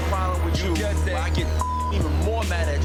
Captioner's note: beep